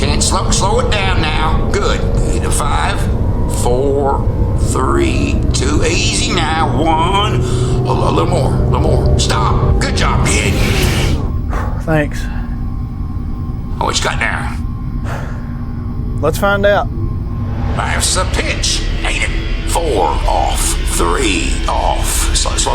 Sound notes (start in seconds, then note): 10.5 sighs